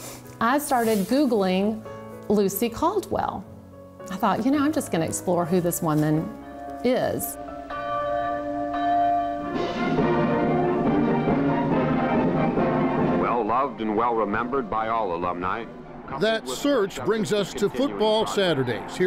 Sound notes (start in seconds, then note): 7.4 church bell ringing; 9.5 patriotic music